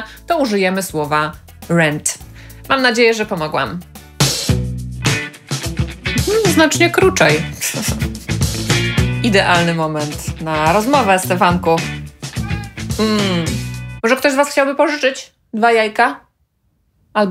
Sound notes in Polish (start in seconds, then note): 12.4 miauczenie